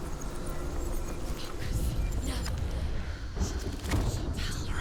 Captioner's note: whisper